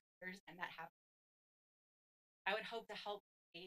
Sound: audio cuts

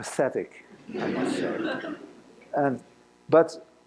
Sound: laughter

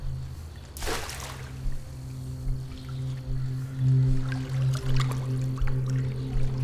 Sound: dramatic music; water splashes

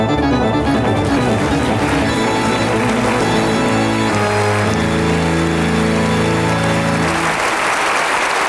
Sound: audience applauding

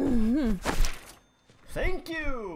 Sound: groan, pockets rustle; cha-ching

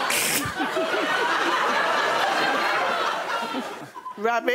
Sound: laughter

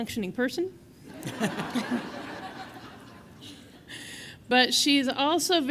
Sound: audience laughing

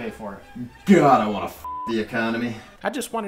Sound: beep

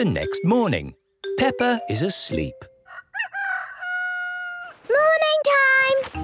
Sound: cock-a-doodle-doo

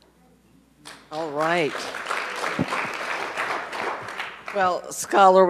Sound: audience applauds

